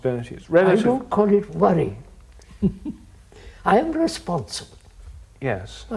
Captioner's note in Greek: Γέλια